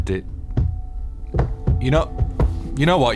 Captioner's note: thumping